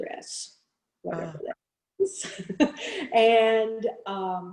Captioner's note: chuckles